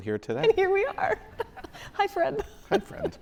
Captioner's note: laughs